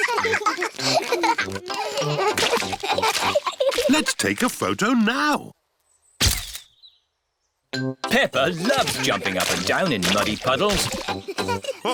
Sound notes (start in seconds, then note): 0.0 both giggling; 6.3 camera clicks